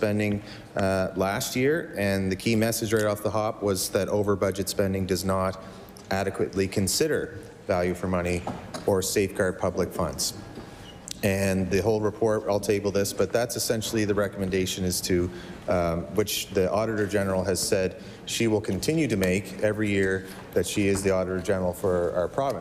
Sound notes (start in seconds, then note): none